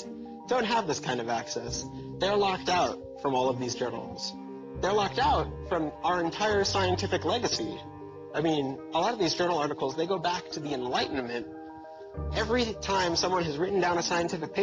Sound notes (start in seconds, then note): none